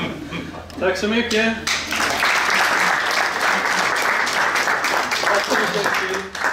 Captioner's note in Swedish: Applåder